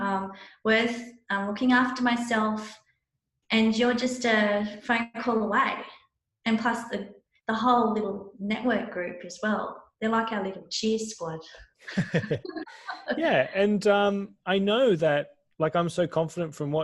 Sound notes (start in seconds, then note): 11.8 laughter